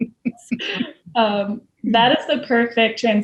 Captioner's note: laughter continues